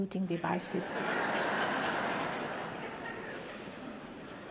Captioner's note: audience laughter